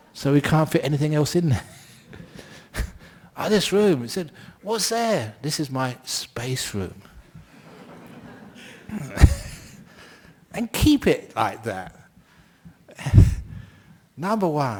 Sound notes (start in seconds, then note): 7.4 laughter